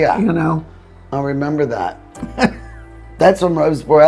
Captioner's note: laughing